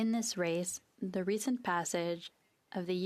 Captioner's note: speaking FRENCH